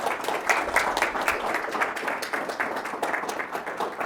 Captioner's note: audience applauding